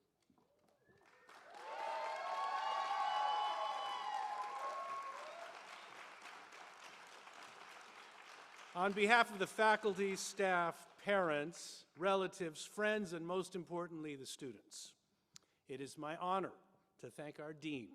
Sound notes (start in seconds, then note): 5.7 applause